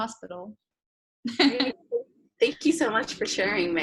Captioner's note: laughs